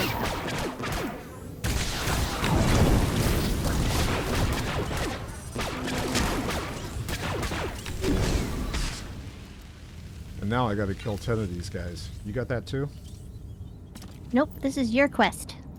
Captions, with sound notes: [gunshots] And now I got to kill ten of these guys. You got that too? Nope, this is your quest.